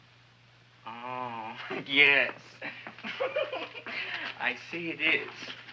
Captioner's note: laughs